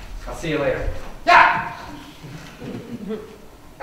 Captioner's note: yelps